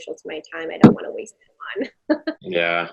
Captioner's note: chuckling